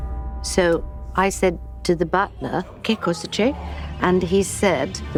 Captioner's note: non-english